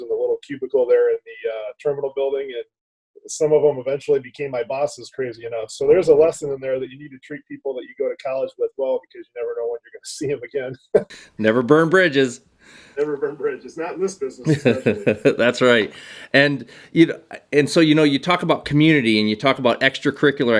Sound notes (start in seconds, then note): 10.8 laugh; 14.4 laughter